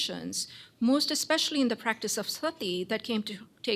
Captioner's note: non-english